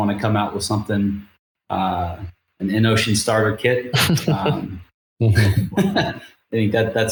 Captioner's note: laughs